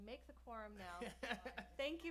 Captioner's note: laughs